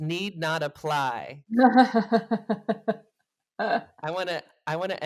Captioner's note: laughs